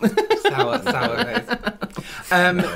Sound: laughing At Something

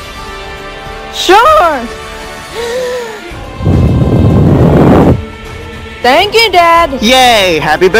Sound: blowing Sounds

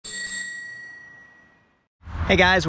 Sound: bells chiming

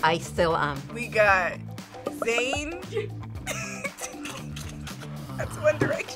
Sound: laughs

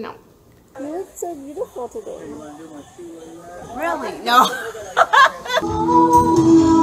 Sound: laughs

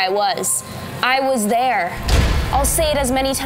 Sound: metallic clang

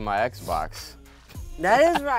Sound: laughs

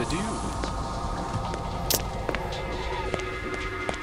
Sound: footsteps

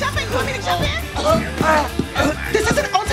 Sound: choking

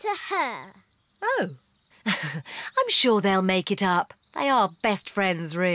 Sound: laughs nervously

